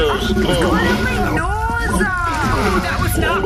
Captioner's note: squelching